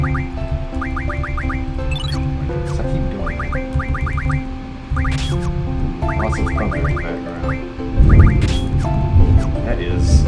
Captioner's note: thunder